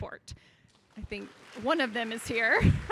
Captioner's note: audience applauding